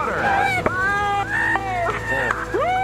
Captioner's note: announcers cheer